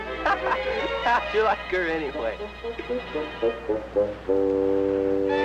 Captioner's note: laughs